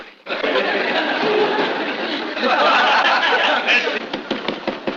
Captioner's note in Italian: risate